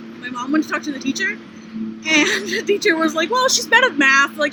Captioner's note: laughter